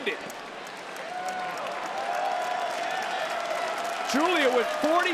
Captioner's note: crowd cheers and applauds